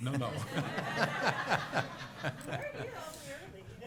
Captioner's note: laughter